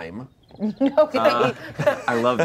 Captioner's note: laughs